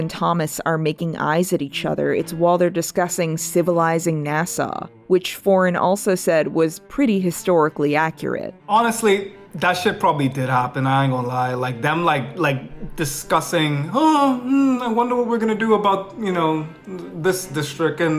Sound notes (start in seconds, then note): 8.5 foreign